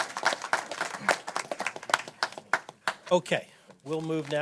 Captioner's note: applause